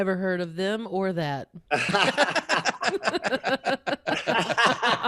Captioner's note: laughing